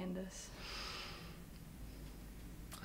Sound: Ben breathes in

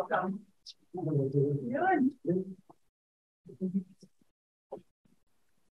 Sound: electronically garbled speaking

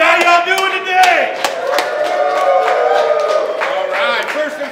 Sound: crowd cheering

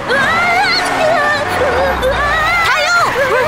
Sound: frantic screaming

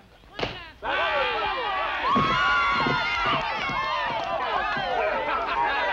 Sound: cheering

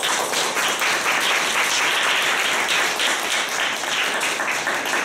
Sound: applause

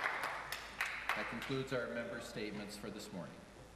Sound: applause

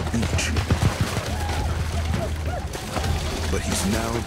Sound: splashing

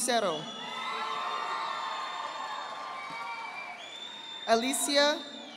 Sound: audience applauding

